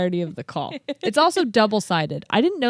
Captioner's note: laughs